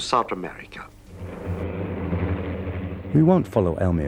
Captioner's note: airplane engine whirring